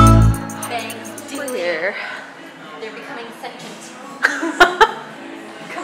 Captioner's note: laugh